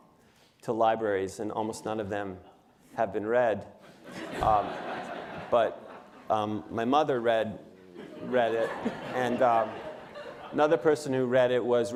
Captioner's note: laughter